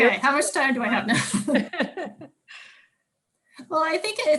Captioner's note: both chuckle